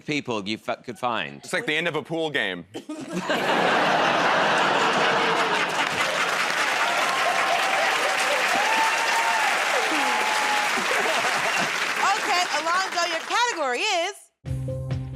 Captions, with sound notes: you could find. -It's like the end of a pool game. [ Laughter ] [ Cheers and applause ] -Okay, Alonzo, your category is...